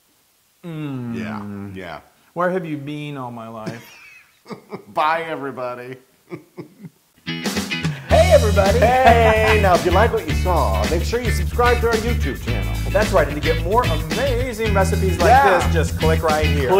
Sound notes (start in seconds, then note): 4.4 laugh